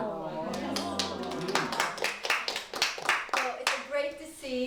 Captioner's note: audience applauding